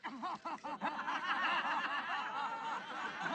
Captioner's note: laughing